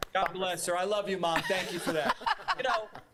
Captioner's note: laughter